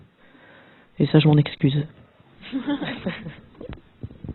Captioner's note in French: rires